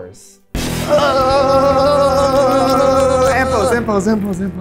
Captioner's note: both yelling